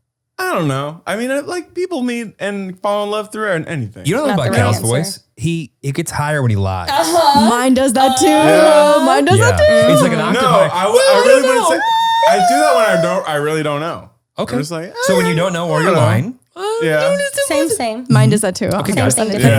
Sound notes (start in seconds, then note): 10.2 mocking Cal's voice